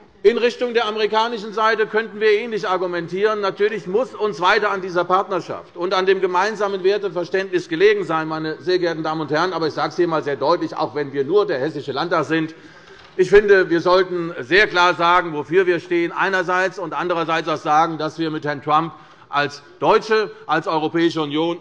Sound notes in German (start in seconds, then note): none